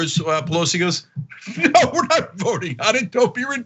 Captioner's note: laugh